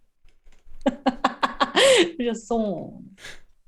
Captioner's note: laughter